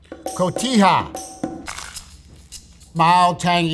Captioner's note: upbeat music; sandwich rustling